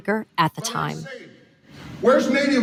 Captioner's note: archival audio from campaign speech